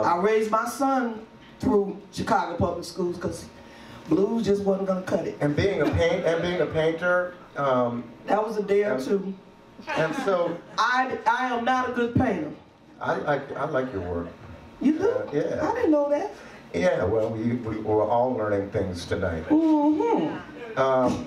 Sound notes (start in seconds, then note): 5.7 laughs; 9.9 audience laughs